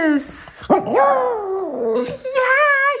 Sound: howling

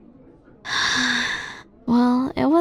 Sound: sigh

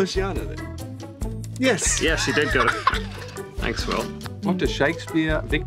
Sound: laughing

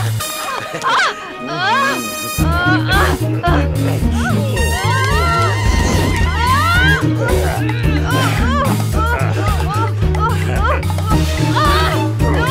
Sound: screams

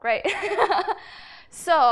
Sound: laughs

